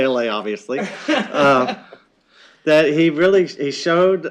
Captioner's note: laughter